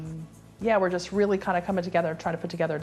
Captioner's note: none